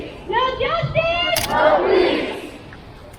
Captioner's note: crowd